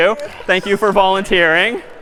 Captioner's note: می خندد